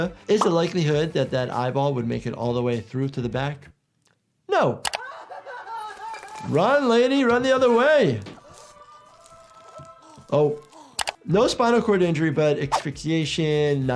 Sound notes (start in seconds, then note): 5.0 victim 3 cries; 8.4 victim 3 grunting